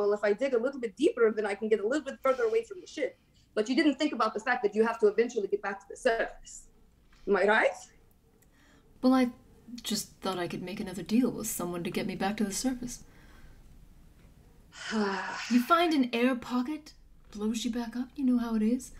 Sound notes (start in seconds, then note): 14.7 deep sigh